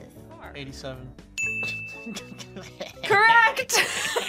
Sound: bell rings; laughs

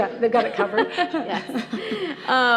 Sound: laughter

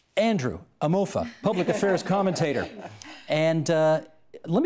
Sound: laughter

